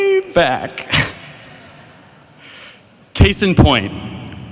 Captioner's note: laughing